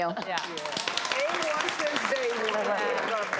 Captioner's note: audience clapping